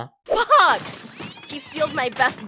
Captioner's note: crash, cat sound